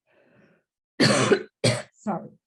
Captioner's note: coughs